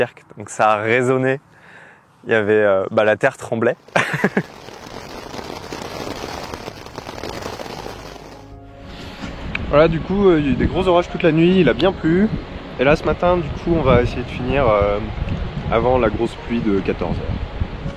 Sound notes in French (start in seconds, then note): 3.8 pluie battante; 3.9 rires